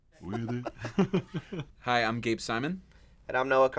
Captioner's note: laugh